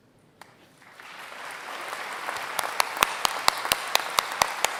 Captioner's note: applause